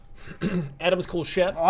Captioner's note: ahem